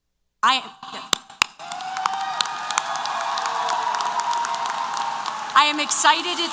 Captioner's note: applause & Cheers